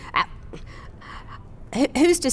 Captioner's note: stammers